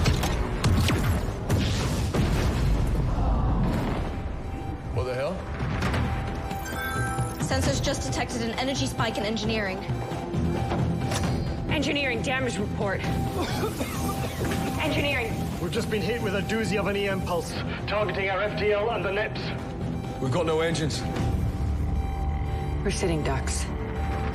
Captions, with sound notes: ( electricity surging ) - What the hell? - ( alarm blaring ) Sensors just detected an energy spike in Engineering. Engineering, damage report? - Engineering? - We've just been hit with a doozy of an EM pulse targeting our FTL and the NEPS. - We've got no engines. - We're sitting ducks.